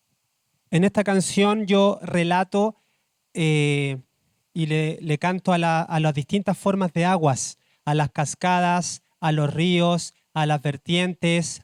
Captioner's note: speaking Spanish